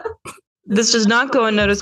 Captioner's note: lucy and kayla laugh